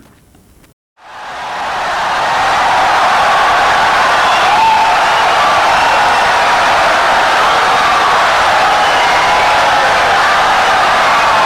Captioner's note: wild applause and cheering for 17 seconds